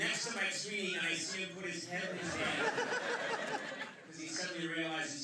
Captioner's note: laughter